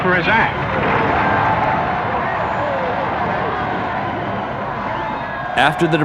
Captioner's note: crowd Shouting